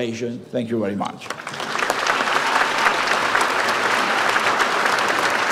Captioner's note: audience applauds